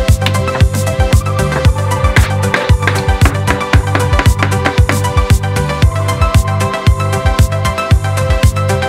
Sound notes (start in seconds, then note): 1.4 wood tapping